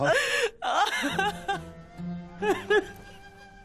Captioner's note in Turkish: Ağlama sesi